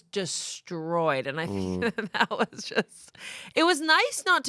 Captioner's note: laughs